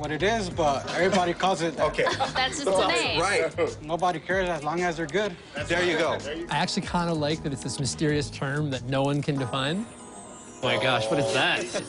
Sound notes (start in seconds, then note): 0.0 chuckles; 1.8 laughter